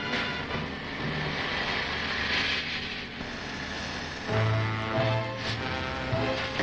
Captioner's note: torch sparking; tense dramatic music